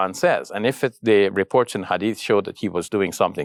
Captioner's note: speaks Arabic